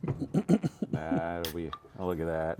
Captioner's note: pop-sizzle the can opening